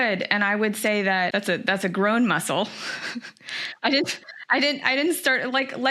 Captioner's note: laughs